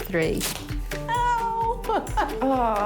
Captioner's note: groans